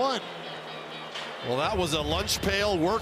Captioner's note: cheering